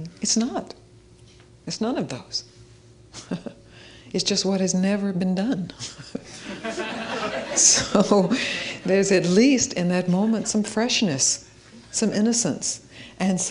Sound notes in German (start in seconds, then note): 5.8 und die Leute lachen zusammen